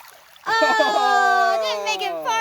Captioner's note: laughs